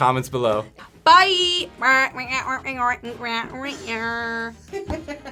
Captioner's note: speaks alien language; React laughs